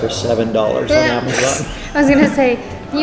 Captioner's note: laughs